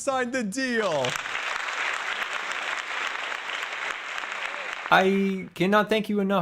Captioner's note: applause